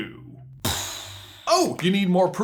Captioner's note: brain explosion noises